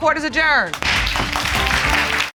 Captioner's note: audience applauding